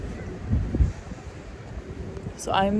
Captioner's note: wind gusts